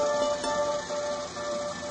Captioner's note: gears grind